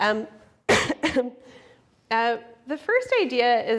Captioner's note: coughs